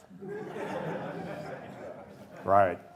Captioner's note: laughter